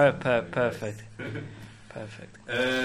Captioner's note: laughs